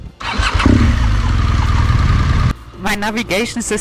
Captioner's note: motorbike roaring